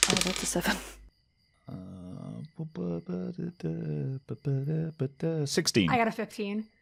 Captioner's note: quietly mumbles to himself